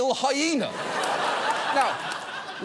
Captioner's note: studio audience laughs